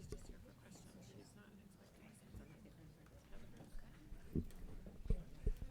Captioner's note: board members chattering